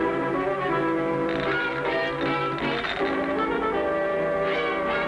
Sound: bottle filling

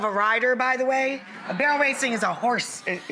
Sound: audience gasp

